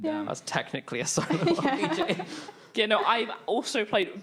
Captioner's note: laughing